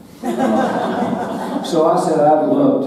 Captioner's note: audience laughing